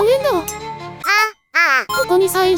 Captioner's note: tears